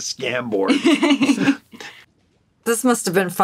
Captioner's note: laughing